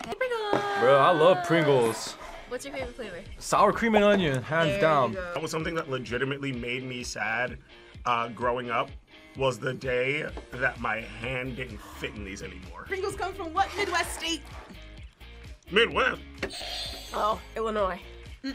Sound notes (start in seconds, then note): 15.7 buzzer rings